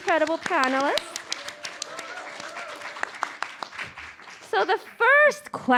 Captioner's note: audience applauding